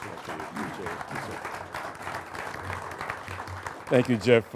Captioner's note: applauding